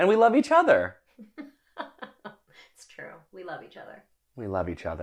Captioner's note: laughs